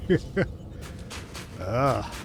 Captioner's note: laughs